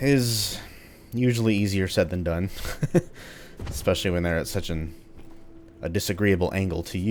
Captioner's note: chuckles